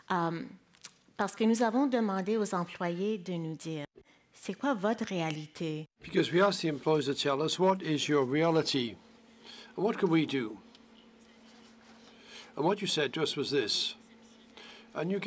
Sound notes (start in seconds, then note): 0.9 speaking in French